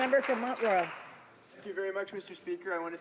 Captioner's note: some Applause